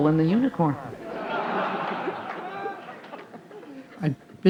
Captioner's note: participantes rindo